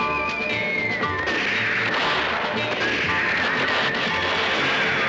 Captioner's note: gunshots